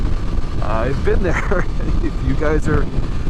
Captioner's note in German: lacht